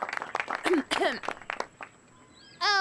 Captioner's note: clears throat